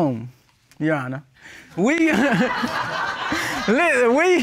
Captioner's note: all laugh